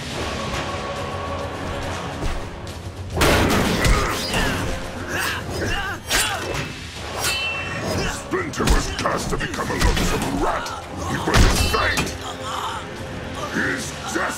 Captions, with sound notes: [thudding, grunting] Splinter was cursed to become a loathsome rat! It was his fate... HIS DESTINY!